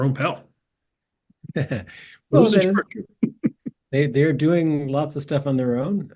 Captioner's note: laugh